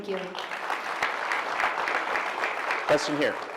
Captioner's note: applause